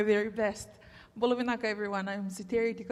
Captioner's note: speaks in Fijian